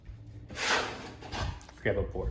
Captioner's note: board Shuffling